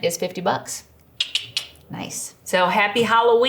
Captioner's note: clicks tongue